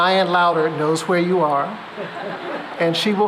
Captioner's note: laughter